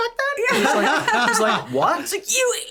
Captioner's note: all laughing